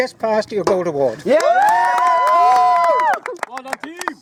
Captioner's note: cheering